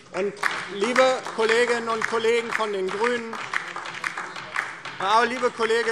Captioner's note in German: Beifall DIE LINKE